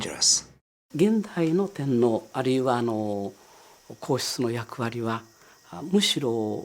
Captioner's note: professor speaking in Japanese